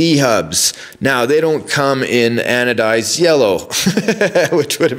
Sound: laughs

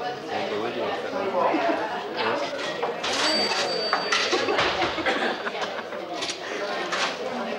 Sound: Anne laughs

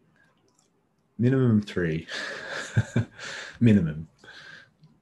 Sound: chuckles

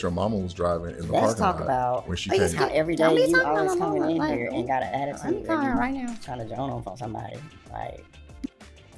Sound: disgruntled chatter

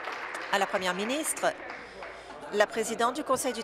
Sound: applause

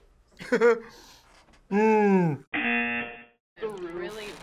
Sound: buzzer

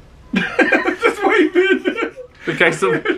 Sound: laughs

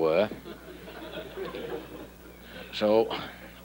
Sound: audience laughing

